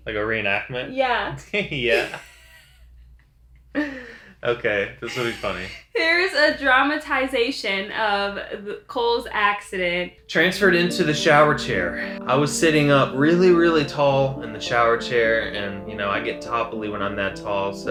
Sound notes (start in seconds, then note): 1.6 chuckles